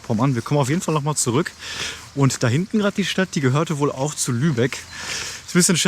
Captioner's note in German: Schnauben